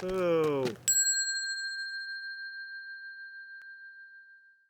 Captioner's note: bell dings